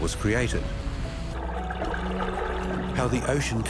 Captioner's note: whirlpool whizzing